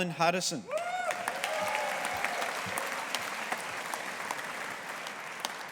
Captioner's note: audience applauding